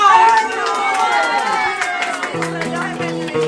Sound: loud cheer

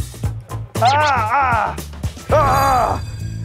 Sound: grunting

